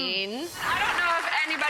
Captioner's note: audience applauding